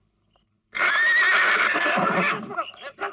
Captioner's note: horse neighing